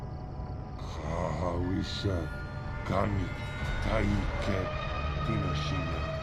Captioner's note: captor speaking in foreign language